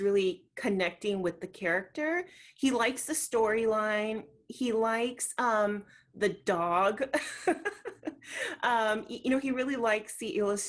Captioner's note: laughs